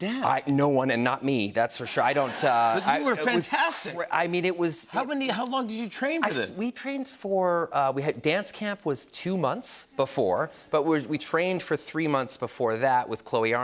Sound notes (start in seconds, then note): 2.0 laughter